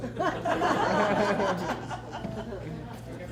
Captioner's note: laughter